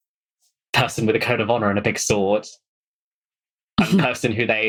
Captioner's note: laughing